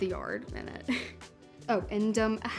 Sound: chuckles

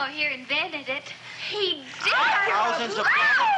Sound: squealing

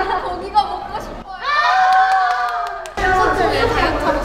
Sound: shouting out hearing barbecue

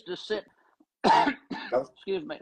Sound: cough

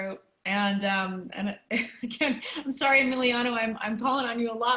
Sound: laughter

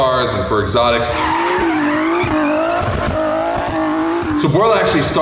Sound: tires screeching

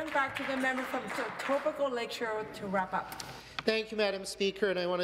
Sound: some Applause

